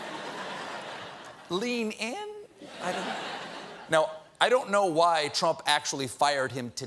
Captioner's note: laughter